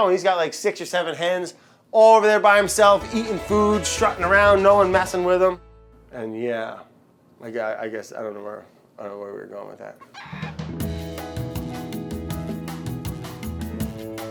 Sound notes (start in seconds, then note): 10.0 chicken squawks; 10.6 lounge music